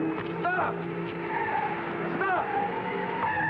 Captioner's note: tires squealing